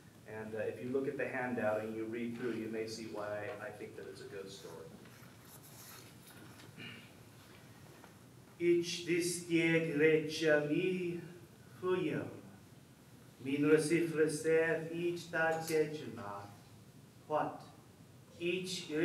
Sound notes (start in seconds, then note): 8.7 speaking foreign language